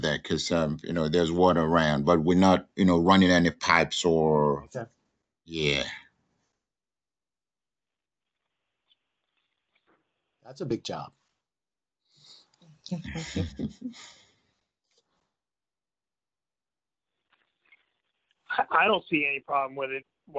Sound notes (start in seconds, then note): 13.1 all chuckle